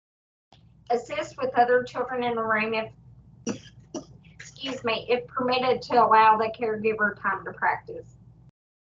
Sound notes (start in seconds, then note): 3.5 presenter coughs